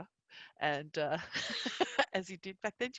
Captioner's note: laughs